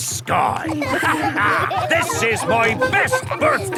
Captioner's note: all laughing